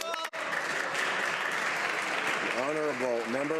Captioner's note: speaking alternate language